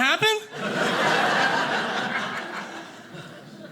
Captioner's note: audience laughing